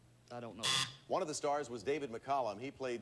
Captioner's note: buzzer sounds